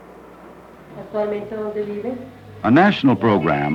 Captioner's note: spanish conversation